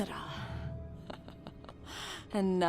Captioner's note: Miraj laughing